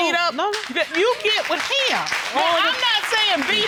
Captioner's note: audience applauding